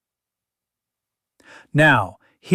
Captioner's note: pause